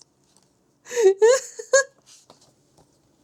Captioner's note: laughs